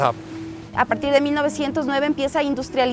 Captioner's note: speaking spanish